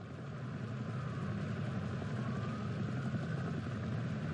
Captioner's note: city night sounds resume